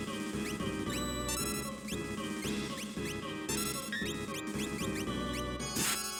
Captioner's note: lively playful music; video game menu chiming